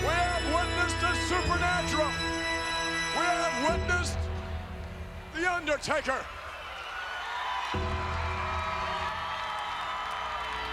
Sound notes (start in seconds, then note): 7.3 crowd cheers